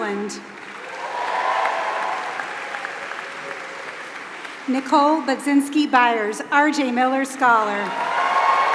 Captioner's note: applause; applause